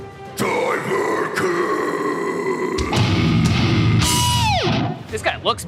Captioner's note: screaming